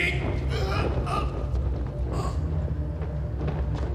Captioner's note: groans